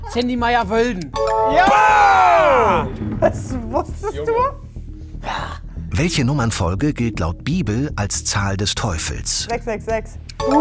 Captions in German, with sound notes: Sandy Meyer-Wölden. Jaaa! (lacht:) Das wusstest du? 666.